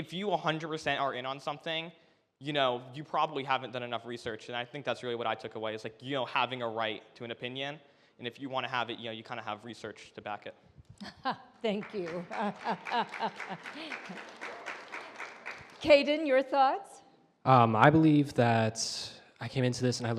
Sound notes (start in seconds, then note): 11.7 audience applauds